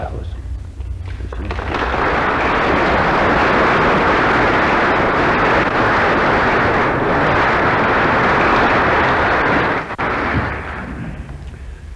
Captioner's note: applause